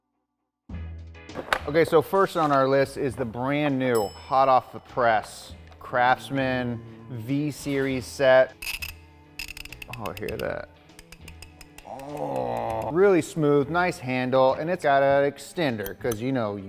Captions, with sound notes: - Okay, so first on our list is the brand new, hot off the press Craftsman V series set. (ratchet teeth clicking) Oh, hear that. Oh Really smooth, nice handle. And it's gotta extender, 'cause you know